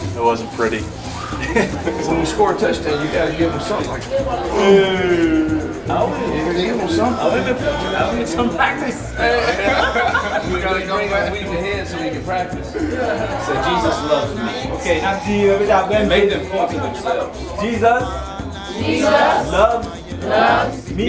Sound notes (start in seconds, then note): 2.6 chuckles; 9.0 laughing; 15.3 speaking in foreign language